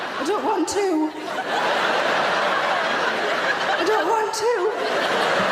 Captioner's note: audience laughing